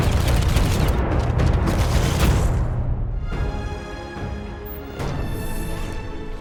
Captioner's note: gun thumping